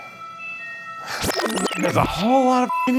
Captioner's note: static crackles